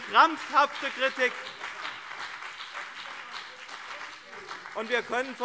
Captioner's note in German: Beifall BÜNDNIS 90/DIE GRÜNEN und CDU